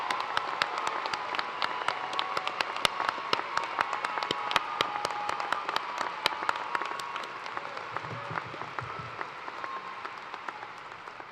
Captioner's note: cheers and applause